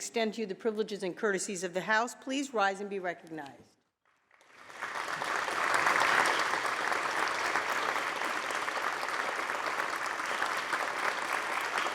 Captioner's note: applause